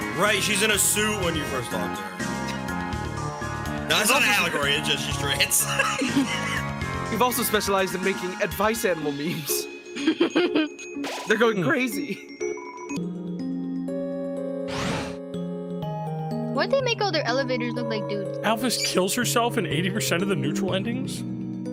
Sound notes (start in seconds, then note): 5.5 laughs